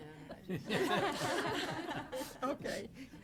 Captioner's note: laughing